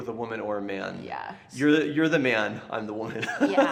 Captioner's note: laughs